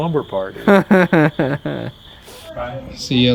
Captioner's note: laughs